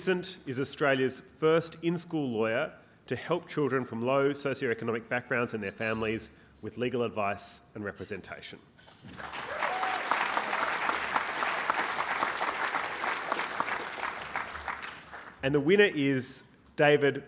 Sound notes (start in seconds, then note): 9.0 applause